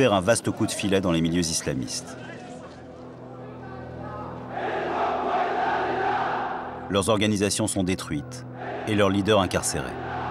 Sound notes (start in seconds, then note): 4.4 crowd in court